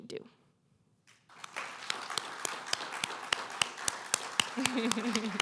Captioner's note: applause